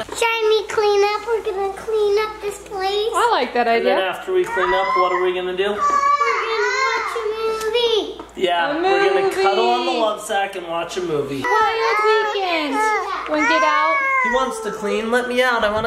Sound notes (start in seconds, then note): 11.6 yelling drowns out other speakers